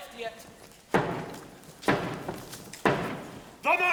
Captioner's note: steady tapping